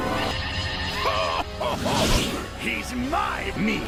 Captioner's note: evil laughing fat man